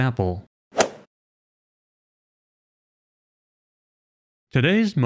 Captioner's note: golf ball hit sound effect